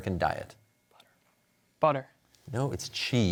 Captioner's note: whispering